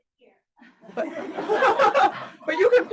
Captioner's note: audience laughs